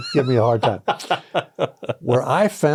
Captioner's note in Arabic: يضحك